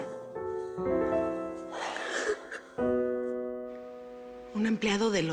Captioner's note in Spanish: Sollozos